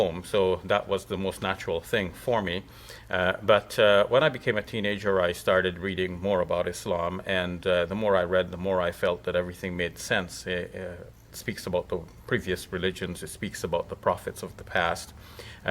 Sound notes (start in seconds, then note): none